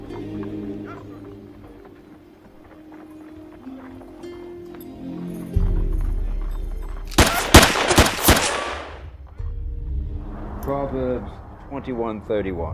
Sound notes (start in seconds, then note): 0.0 gentle orchestral music; 7.1 gun firing